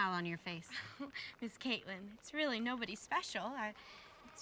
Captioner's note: chuckles